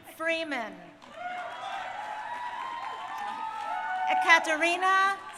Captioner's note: crowd cheering